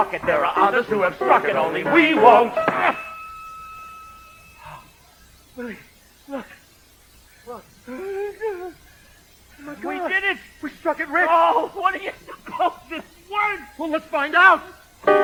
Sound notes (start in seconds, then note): 2.9 grunts; 4.6 gasps; 5.7 spoken, excited but exhausted